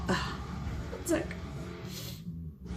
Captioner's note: sniffs